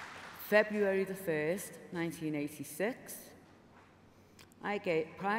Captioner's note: applause